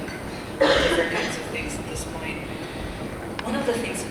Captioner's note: coughing drowns out speaker